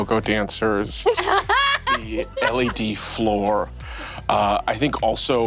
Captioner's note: laughing